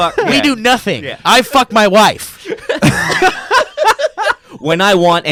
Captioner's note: laughing